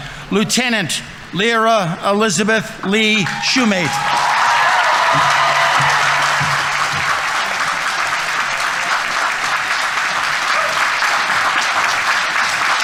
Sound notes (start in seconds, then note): 3.2 audience members cheering; 3.2 audience applauding